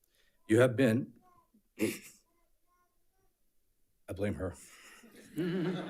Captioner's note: clears throat; audience laughs